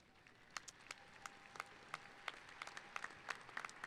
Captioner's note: applauding